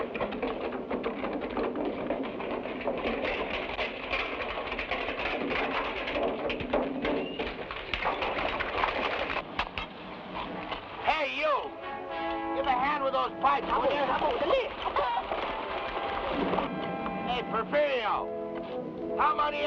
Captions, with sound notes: (barrel rumbles) (horse hooves patter) (pickaxes thud) - Hey, you! Give a hand with those pipes, will ya! (men chatter) (chicken clucks) Hey, Porfirio, how many on?